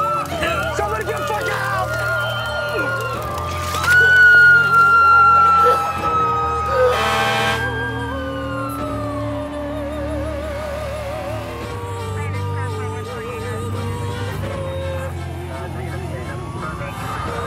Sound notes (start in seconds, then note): 1.7 woman screaming; 6.6 ambulance siren